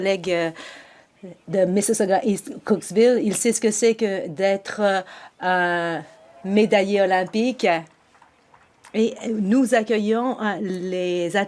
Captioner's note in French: voix de l'interprète